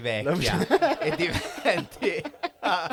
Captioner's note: risate